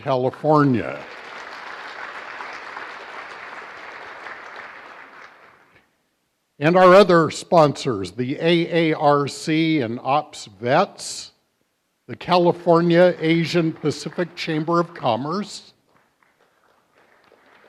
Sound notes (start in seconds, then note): 0.1 applause